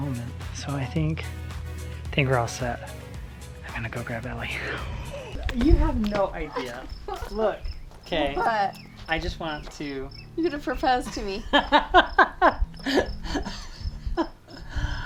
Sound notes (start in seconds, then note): 11.1 laughs